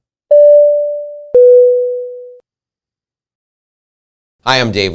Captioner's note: door bell ringing